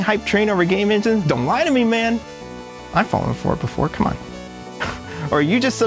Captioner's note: chuckles